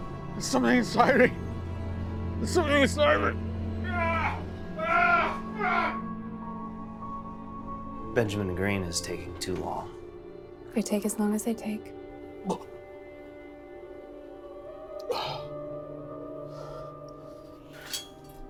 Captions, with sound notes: There's something inside me. There's something inside me. [shouts] Fuck. Benjamin green is taking too long. They take as long as they take. [intriguing music]